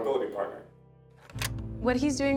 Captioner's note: button clicks